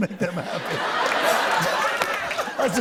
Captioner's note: laughter